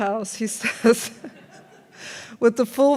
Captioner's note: laughs; audience laughs